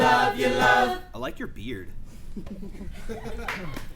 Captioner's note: applause